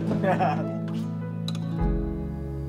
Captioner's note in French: rires